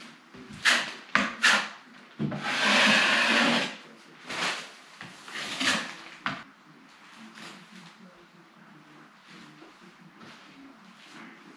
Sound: drywall mudding sound; taping knife scrapping drywall sounds

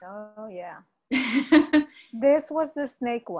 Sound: laughs

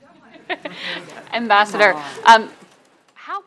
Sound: laughter

